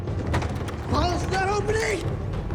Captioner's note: intense dramatic music; door latch jangling